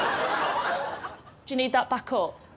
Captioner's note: laughter